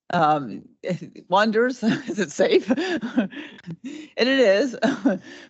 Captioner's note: laughing